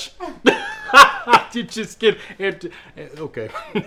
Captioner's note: laughs; laughs